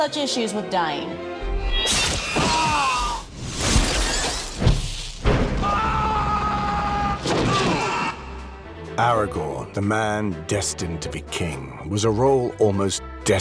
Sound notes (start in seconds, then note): 2.1 screaming